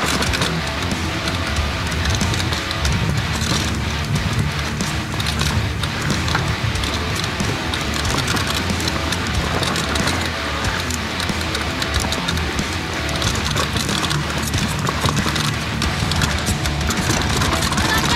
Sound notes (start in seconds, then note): 3.8 A broken rear shock creaking